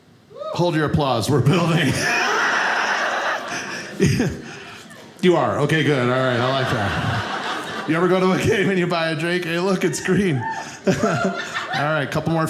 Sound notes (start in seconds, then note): 1.8 audience laughing; 9.8 audience members cheer